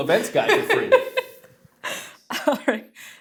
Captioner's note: laughs